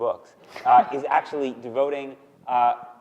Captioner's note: laughing